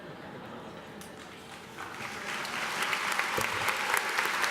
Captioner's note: applause